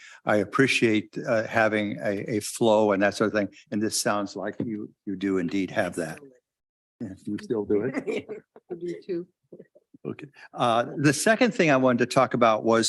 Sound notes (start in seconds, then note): 6.8 mumbles; 7.6 chuckles